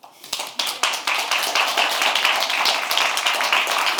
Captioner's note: audience clapping